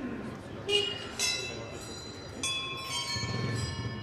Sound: street sounds

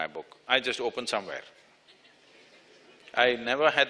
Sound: few laugh

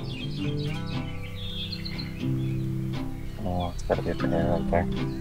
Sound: birds calling

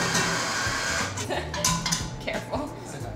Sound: chuckles

